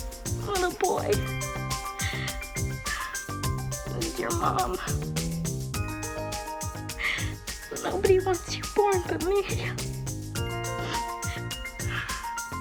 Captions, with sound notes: Little boy. This is your mom. Nobody wants you born but me. (SOBBING)